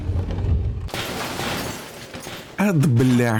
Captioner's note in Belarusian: гуки падзення